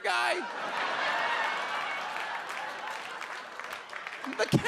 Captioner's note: audience laughs